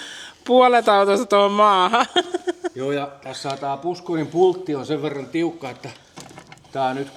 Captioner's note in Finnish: naurua